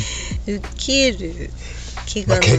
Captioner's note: laughs